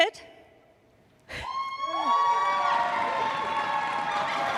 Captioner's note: applause